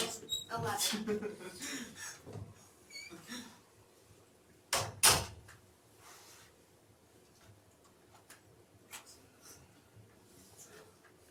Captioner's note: laughs